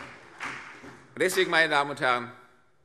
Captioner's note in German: Beifall CDU und BÜNDNIS 90/DIE GRÜNEN